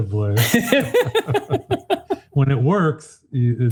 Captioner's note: participants laugh